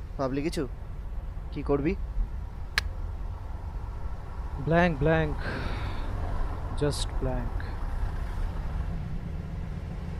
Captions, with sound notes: Didn't you think of anything? (tuts) I'm blank. (sighs deeply) Just blank.